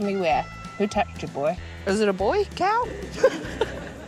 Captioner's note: laughs